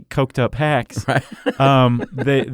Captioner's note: laughs